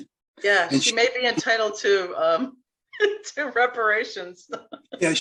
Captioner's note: laughs